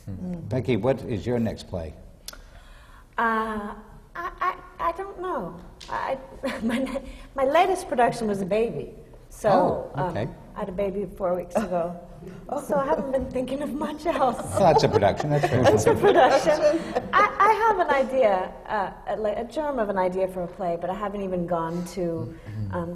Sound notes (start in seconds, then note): 4.4 laughs; 14.2 laughter